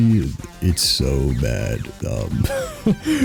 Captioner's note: wheeze